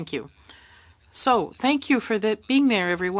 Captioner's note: speaking French